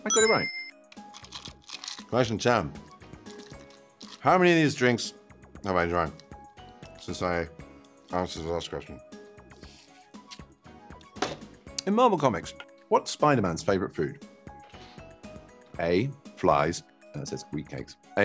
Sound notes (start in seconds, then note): 0.0 chime rings; 1.1 ice rattles